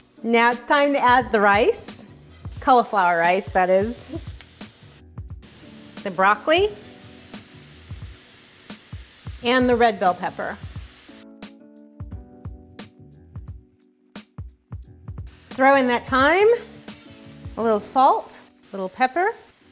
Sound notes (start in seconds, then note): 4.2 food sizzling; 11.5 mellow music